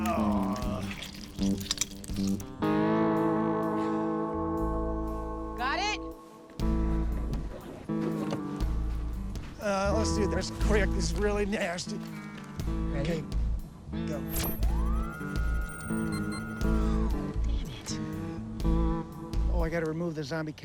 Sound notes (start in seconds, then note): 14.2 electronic humming; 15.7 beep, beep